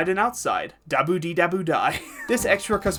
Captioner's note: laughing